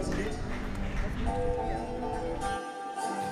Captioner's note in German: Applaus, Jubel